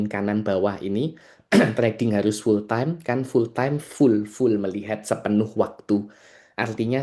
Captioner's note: berdehem